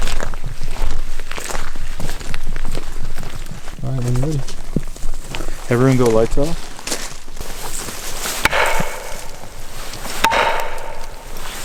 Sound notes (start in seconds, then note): 8.4 bat banging